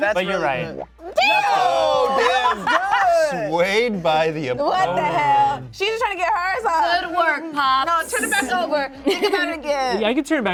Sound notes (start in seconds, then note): 2.6 cast exclaims